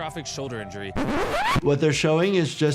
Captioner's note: record scratching